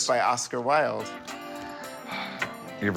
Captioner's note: sighs